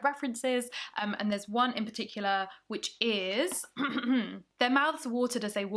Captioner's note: clears throat